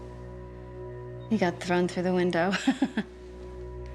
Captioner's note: chuckles